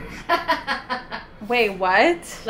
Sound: laughing

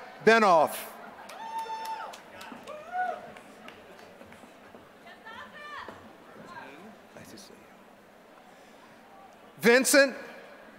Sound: applause

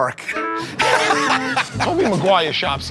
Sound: laughter

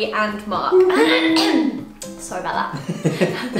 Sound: Zoe clears throat

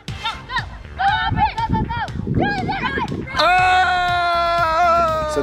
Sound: male Instructor yells

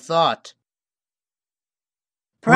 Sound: awkward silence

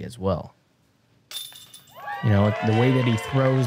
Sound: applause

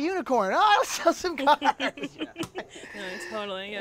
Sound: laughs

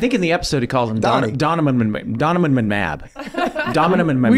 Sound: laughs

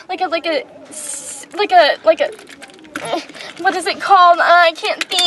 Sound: peeing noise

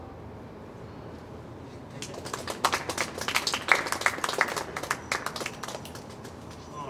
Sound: clapping

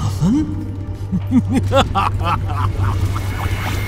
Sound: evil laughter

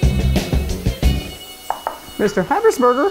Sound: knocking on door

